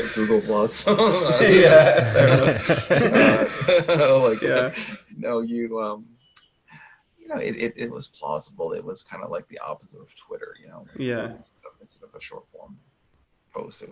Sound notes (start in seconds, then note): 1.7 all laughing